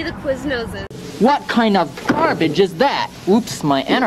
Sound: pounds fist

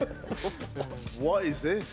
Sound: chuckling

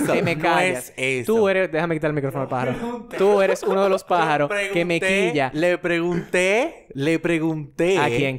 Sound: laughs

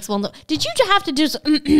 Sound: clears throat

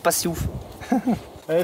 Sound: laugh

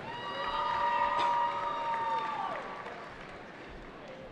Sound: cheering

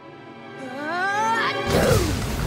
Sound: sneezing

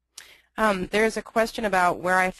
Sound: voiceover

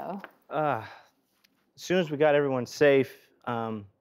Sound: sighs

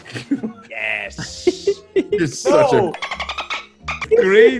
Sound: laugh

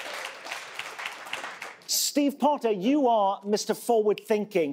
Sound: applause

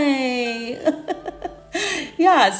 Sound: chuckles

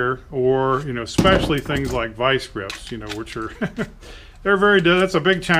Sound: chuckles

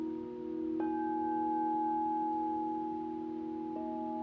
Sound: bowl rings

